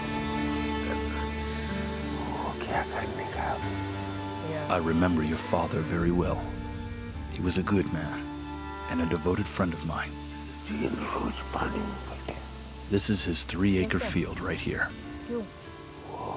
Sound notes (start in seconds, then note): 1.3 person speaks foreign language; 10.9 person speaks foreign language